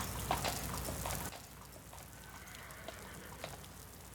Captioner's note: horse whinnies